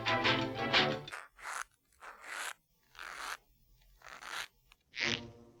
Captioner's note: soft creaking; creaking